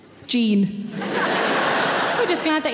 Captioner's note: audience laughing